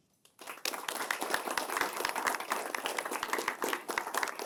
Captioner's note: applause